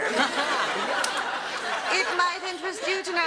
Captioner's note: audience laughs